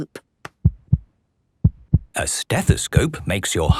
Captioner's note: heart beating